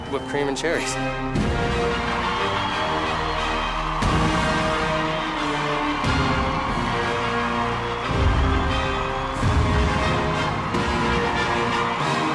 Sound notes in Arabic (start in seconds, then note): 1.7 موسيقى سيمفونية; 2.9 هتاف الجماهير